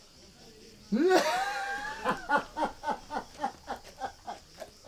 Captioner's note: mean laughter